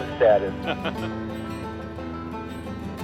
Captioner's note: laughs; gentle music